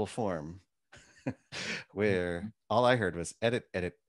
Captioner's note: laughs